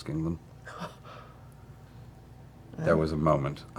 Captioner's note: gasps